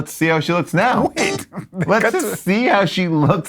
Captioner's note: laughs